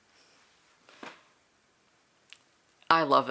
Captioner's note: silence